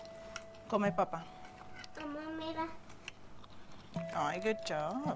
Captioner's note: speaking Spanish